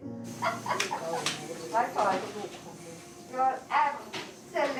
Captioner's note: indistinct chatter; healthcare worker laughs